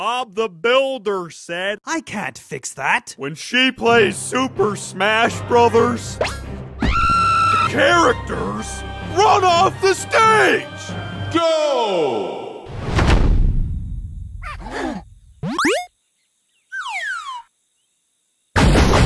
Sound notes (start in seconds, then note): 6.8 screams; 14.4 gasps